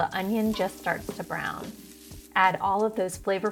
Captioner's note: pot sizzling